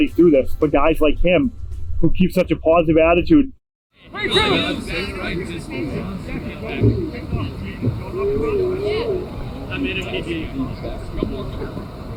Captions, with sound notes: through this for guys like him who keep such a positive attitude. [in-field chatter]